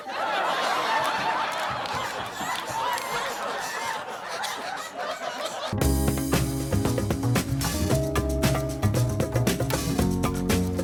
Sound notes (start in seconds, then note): 0.0 audience laughs; 1.8 Steve laughs; 5.8 soft upbeat music